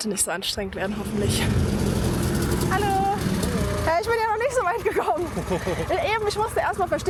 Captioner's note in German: gelächter